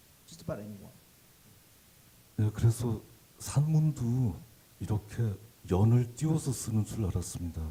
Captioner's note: speaking Korean